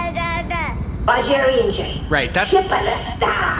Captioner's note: Horsehat babbles